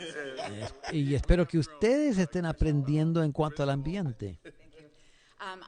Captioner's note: laughter